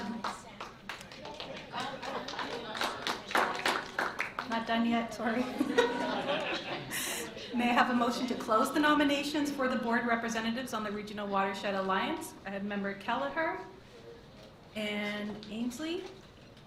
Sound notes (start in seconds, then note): 0.0 interrupting applause; 5.3 giggles